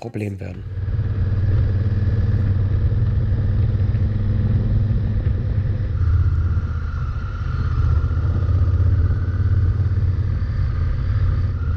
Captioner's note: engine noise